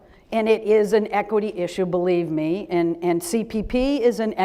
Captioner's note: none